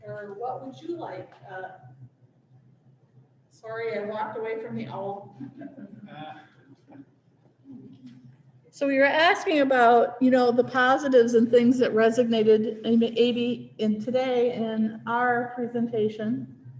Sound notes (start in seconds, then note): 5.3 laughter